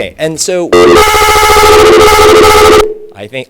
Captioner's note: very loud feedback